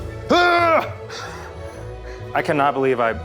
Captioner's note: whimsical music; cheers